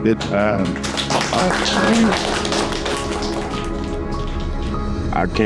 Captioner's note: applause